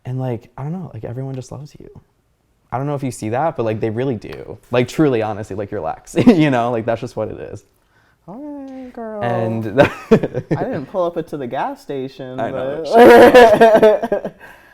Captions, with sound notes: And like I don't know, everyone just loves you. I don't know if you see that, but they really do. Like truly, honestly, like you're Lex, you know? That's just what it is. - All right, girl. (laughing) I didn't pull up into the gas station. (laughing)